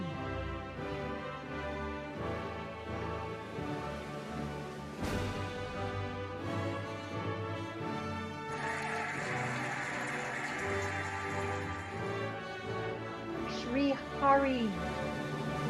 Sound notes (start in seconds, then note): 0.3 cheerful music; 8.4 cheering and applauding